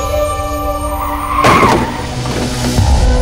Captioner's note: Crashing sound